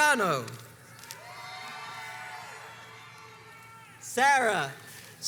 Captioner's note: crowds cheers and applauds